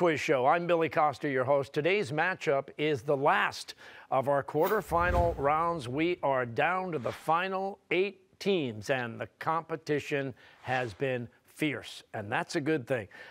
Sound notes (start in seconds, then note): none